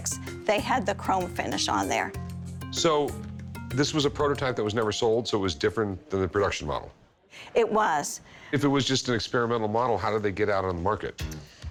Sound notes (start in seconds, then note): none